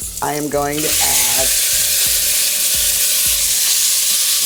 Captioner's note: oil sizzling